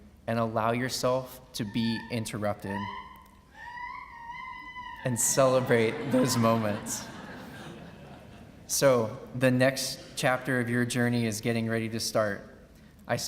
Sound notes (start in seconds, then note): 3.6 cheering; 7.2 laughing